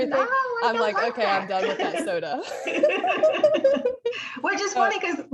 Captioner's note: laughter